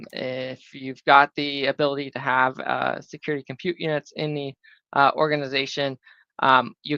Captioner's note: none